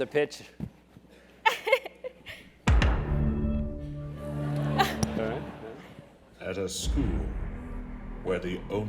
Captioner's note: laugh